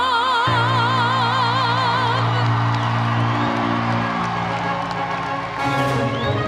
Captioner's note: audience cheering; audience applauding; triumphant music